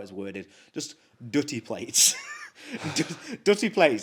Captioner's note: chuckles